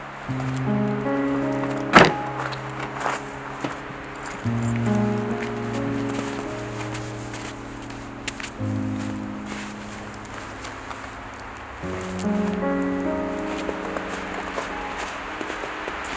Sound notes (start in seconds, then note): 1.9 vehicle door closing; 7.1 icy footsteps crunching; 12.3 wind blowing in the trees